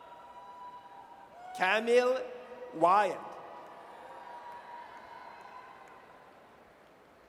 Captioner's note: audience cheers